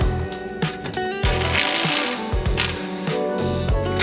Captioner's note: metal clanking